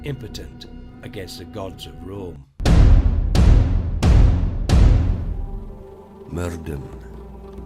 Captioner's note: four loud bangs